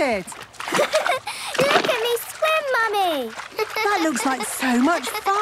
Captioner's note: giggles